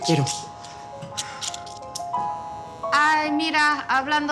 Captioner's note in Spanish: Suena un celular